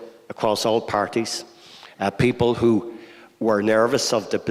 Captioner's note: none